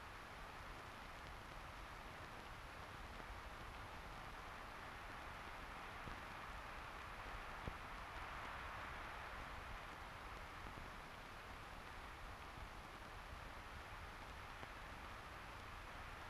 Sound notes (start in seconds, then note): none